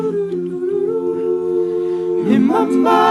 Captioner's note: none